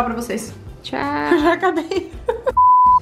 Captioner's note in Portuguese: rindo